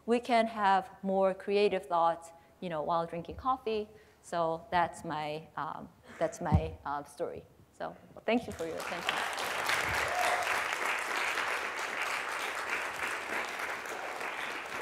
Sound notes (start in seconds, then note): 8.4 applause